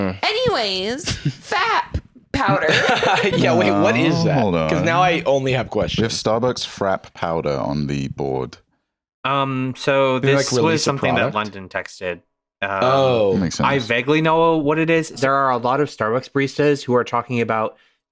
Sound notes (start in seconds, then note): 2.3 laughs